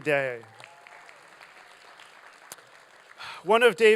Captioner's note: applause